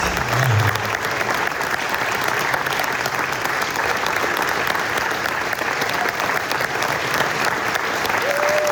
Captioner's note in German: applaus